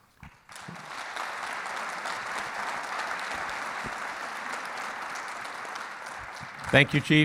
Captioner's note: clapping